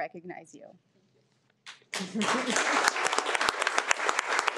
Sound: audience clapping

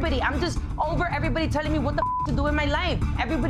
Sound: beep

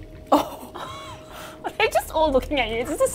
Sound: both chuckle

